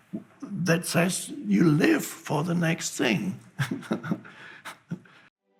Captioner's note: laughs